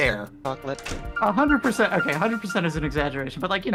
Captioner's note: is AFK, her phone doing an alarm